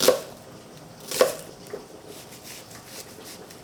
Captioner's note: knife chopping